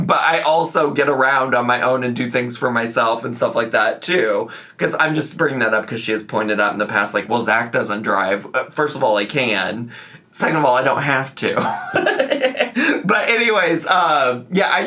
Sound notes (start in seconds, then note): 11.6 laughs